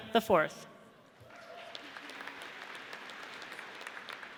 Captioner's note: audience applauds